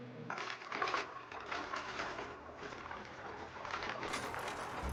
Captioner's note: carts rattling